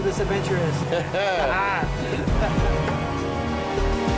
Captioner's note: laughter